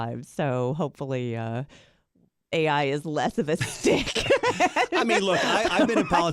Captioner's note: laughs